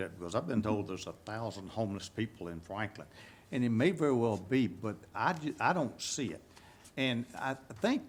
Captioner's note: none